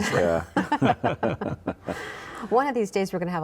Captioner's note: all chuckling